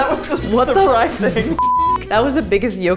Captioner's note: beep